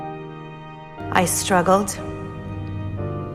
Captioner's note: voiceover